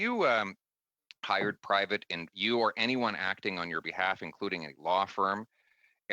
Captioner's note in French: voix de l'interprète